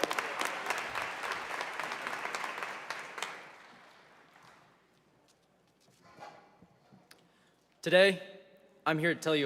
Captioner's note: applause